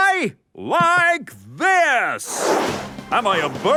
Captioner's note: whooshing